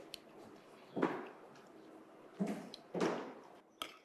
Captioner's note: footsteps thumping